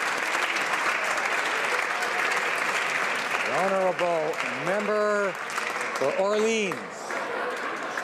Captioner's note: applause